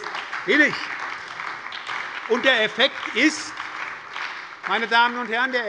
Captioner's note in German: Beifall bei der SPD